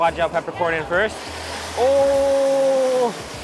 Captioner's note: food sizzles